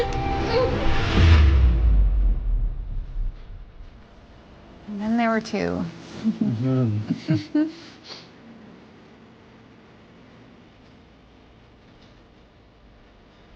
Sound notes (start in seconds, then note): 7.0 laughing